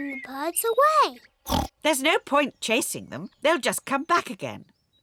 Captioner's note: oinks